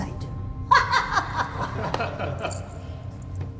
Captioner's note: laughter